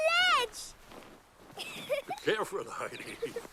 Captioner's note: chuckling